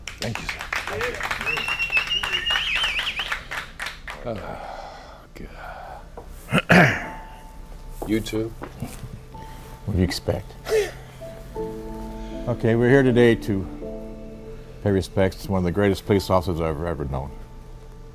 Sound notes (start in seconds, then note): 0.0 officers applauding; 6.5 Chuck clears throat; 10.6 Jim laughs